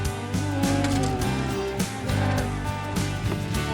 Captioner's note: mooing